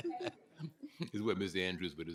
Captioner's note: laughter